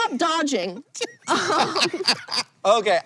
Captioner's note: BOTH laugh